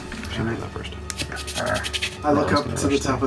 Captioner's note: insect skittering